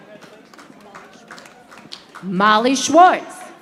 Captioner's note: audience applauding